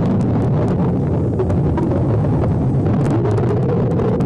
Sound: water sloshing

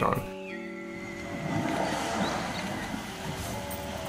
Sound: whale spouting

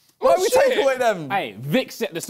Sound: crowd mumbling

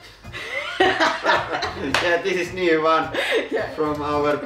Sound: bursts into laughter

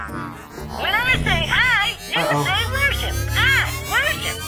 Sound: computer Voice

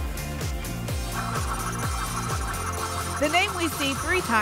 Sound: spinning sounds

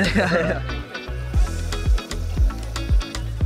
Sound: laughter

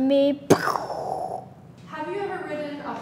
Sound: makes exploding sound

